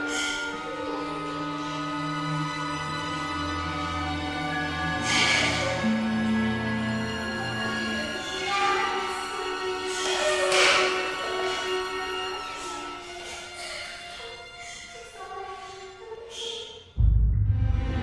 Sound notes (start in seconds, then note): 0.3 suspenseful music; 5.1 sobbing